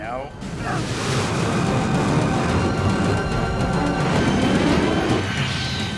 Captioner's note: intense, dramatic music; aircraft whooshing